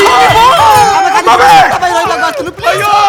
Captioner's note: panicked muttering